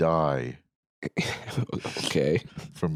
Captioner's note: chuckles